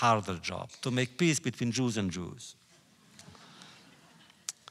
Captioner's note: laughter